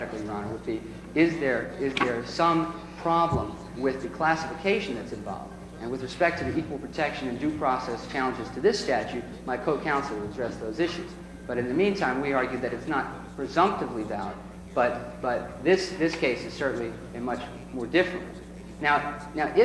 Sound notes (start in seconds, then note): none